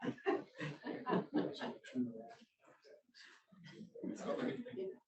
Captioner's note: audience laughs; speaking faintly